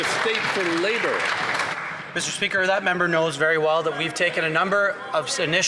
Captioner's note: some Applause